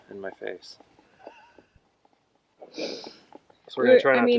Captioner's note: laughs